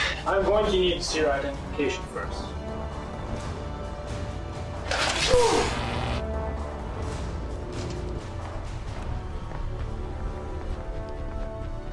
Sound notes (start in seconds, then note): 4.8 gun buzzing; 5.1 soldier groaning